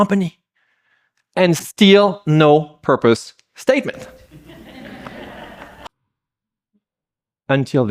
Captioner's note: laughter